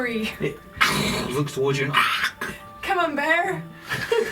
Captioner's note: monster noise